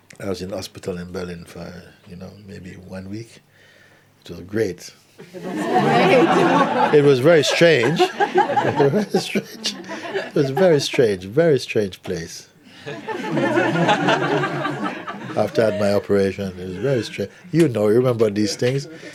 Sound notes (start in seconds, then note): 5.2 laughter; 12.8 laughter